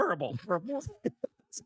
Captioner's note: laughs